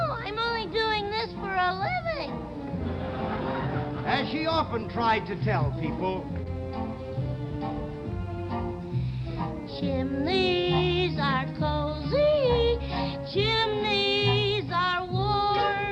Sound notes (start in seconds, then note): 2.7 audience laughs